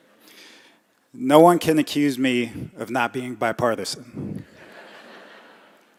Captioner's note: laughter